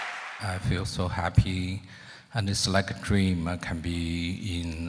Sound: voiceover

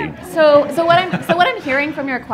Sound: laughter

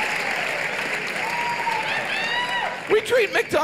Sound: audience cheers

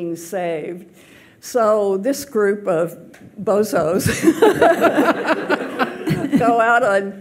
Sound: laughs

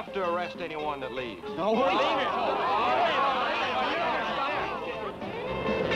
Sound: party goers shouting

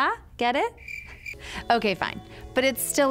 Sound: crickets chirping

